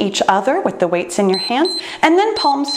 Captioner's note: timer beeps